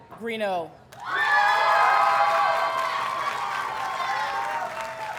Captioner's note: audience cheers and applauds